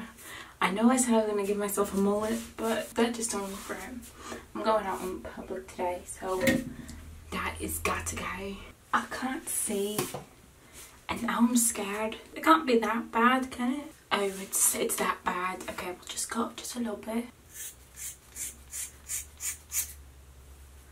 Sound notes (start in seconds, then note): 8.7 with an accent